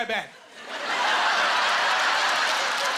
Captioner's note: laughing; applause